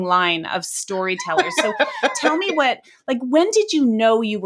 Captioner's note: laughing